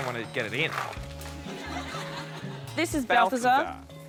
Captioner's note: laughter